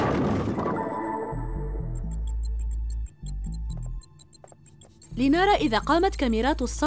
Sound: bowling ball hits pins

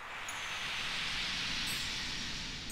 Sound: swoosh and chimes

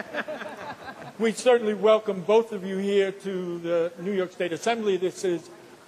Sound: laughter

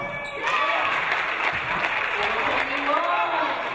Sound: audience applauding

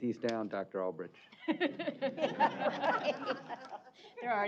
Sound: laughter

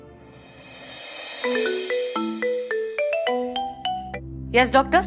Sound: phone ringing

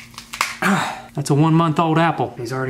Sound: apple cracks; grunts

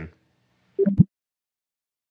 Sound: bloop

